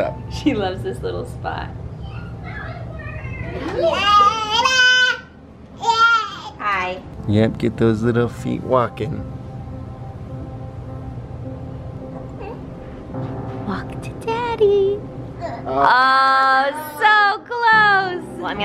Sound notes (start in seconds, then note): 3.8 baby babbles